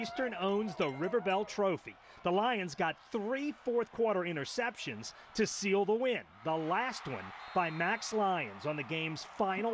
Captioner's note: cheering